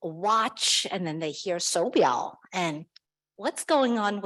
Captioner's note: speaks foreign language